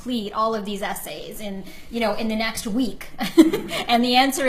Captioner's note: laughs